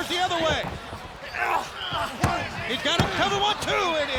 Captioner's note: wrestlers grunting; hand thudding